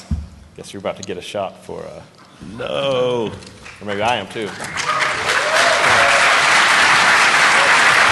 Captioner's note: applause